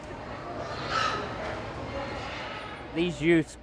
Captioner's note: crowd chattering; pigs squealing